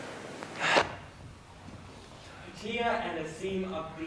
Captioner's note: heavy breathing